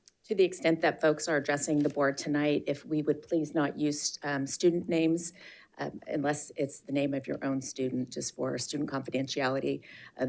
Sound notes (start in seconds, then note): none